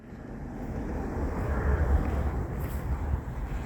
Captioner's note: road noise, cars passing